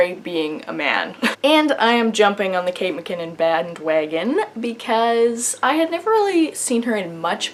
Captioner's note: laughs